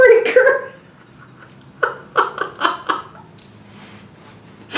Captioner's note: laughs